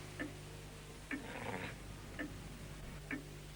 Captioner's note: low growl